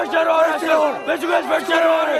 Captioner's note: speaking muffled by shouting